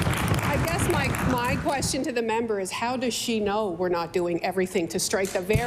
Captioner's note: applause